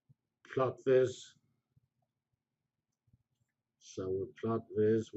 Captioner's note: pause